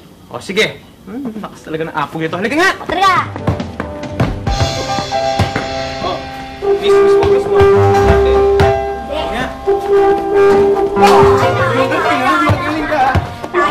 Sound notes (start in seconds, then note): 3.2 ball bouncing; 11.0 ball thuds on ring